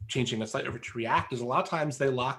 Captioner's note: murmurs